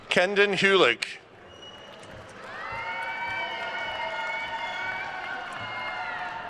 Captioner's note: attendees cheering and applauding